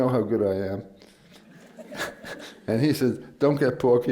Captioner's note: laughter